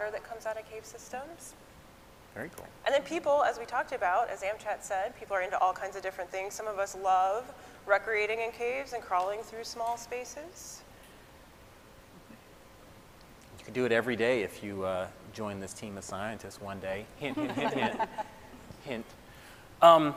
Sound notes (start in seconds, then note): 17.2 scientists laughing